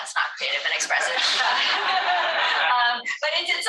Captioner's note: all laughing